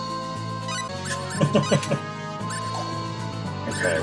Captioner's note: laughs